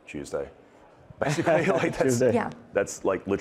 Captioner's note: chuckling